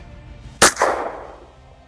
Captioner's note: gunshot